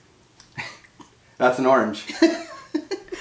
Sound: laughing

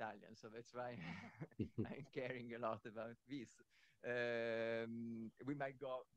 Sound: laughs

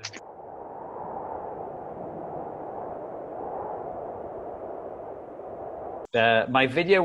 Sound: desolate wind sounds

